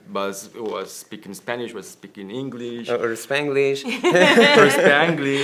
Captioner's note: laughter